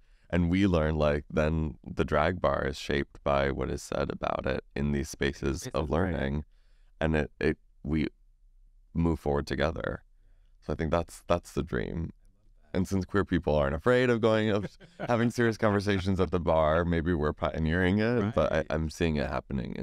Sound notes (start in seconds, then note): 14.3 laughs